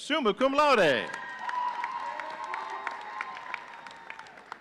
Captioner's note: audience cheering